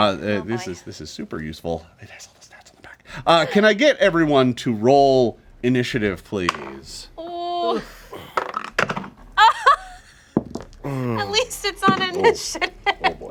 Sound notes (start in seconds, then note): 8.3 dice clatter; 11.9 laughing